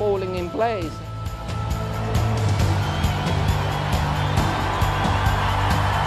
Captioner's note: crowd cheers